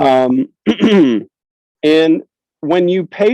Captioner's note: clears throat